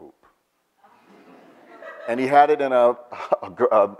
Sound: audience laughs

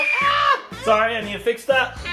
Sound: screaming

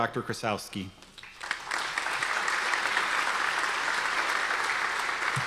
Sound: audience applause

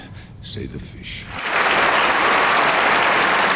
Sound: audience applauding

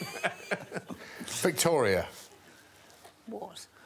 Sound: all laughing

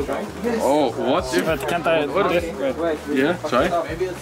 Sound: all chattering

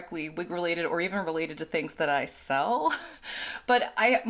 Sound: chuckles

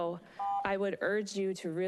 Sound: beeping

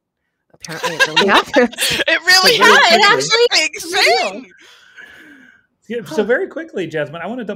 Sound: laughs

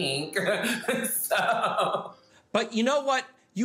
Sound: laughing

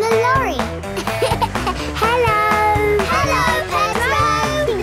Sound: laughing

